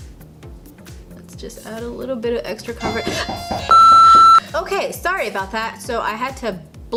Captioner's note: gets startled by doorbell